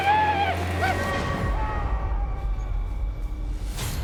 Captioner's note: warrior shouts; soldier screams in distance